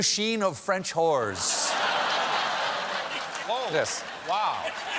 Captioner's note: laughter